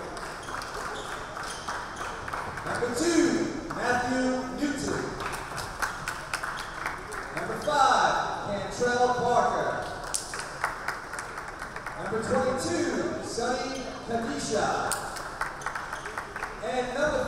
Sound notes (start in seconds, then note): 0.0 everybody clapping; 5.1 applause; 10.0 applause; 14.9 applause